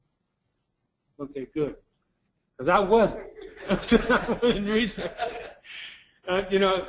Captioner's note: laugh